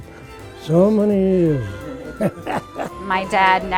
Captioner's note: chuckles